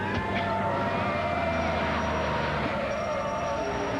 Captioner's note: brakes squealing